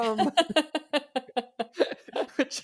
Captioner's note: laughs